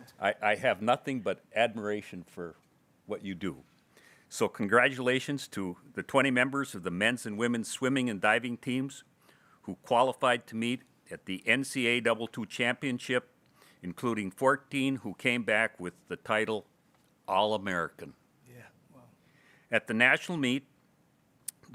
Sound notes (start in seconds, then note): none